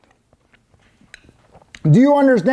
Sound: slurp

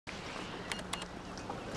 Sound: beeping

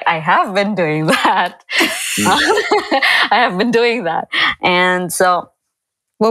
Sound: chuckle

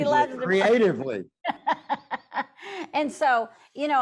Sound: laughs

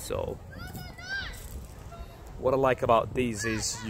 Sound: child yelling

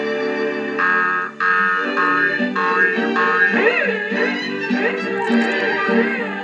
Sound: boing Boing Boing; instrumental Music

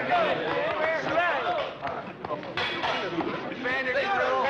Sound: metal clanging

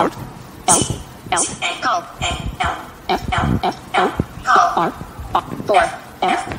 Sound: voiceover

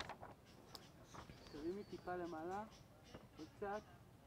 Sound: hebrew

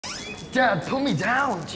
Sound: door creaking

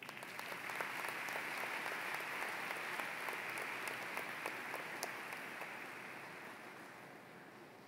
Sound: applause

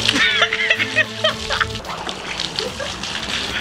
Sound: laughing

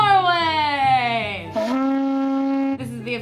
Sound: blow horn

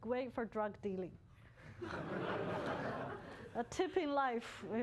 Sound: laughter

